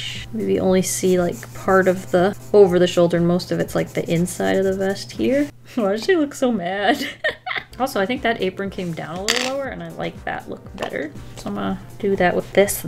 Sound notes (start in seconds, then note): 7.1 laughs